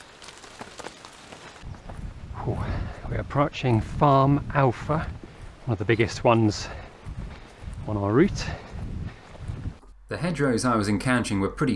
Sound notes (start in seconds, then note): none